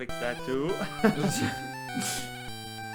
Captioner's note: laughs